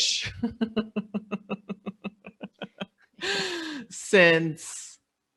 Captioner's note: laughing